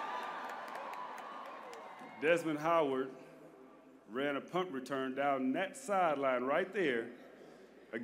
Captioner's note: applause